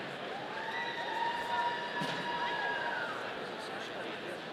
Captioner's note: audience cheering